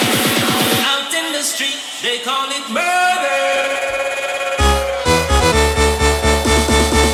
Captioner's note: echoes